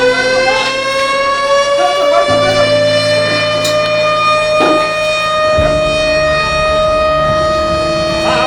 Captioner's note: alarm sound